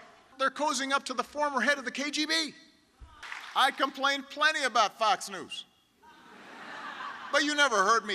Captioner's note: laughter